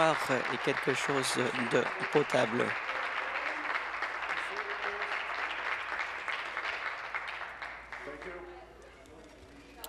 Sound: applause

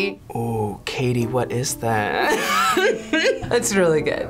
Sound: laughs

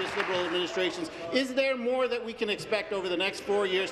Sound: applause

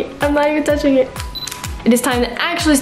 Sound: camera beeps and clicks

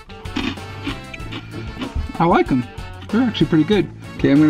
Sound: crunching

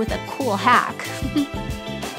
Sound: chuckle

